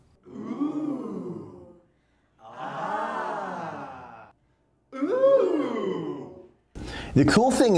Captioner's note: overly Dramatic Ohh's and Ahh's from off camera